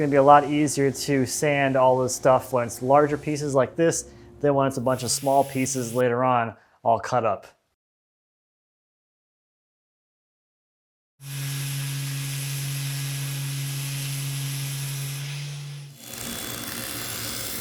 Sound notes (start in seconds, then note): 14.0 machine whirring